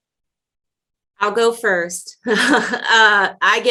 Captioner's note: laughs